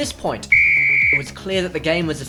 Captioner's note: whistle